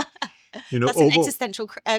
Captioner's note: laughs